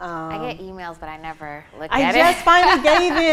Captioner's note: she laughs